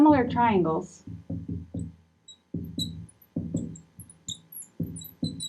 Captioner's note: marker scratching